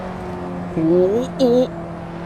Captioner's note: panicked clumsy driver noises